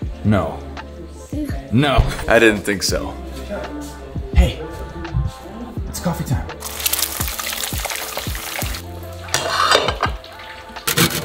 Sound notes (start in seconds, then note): 6.6 eggs frying; 9.3 plate clinking against cups